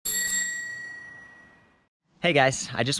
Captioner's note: bell chiming